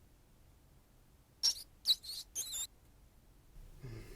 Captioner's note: rat squeaks